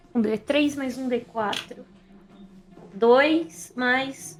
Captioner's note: none